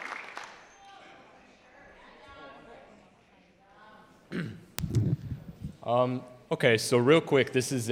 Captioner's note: clapping